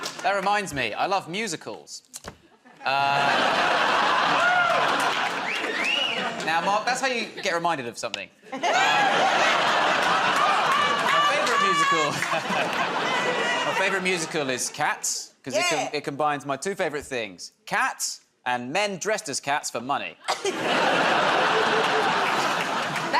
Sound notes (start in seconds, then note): 2.6 laughter; 5.5 wolf whistles; 8.4 laughter; 20.2 laughter